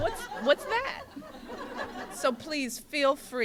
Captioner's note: laughter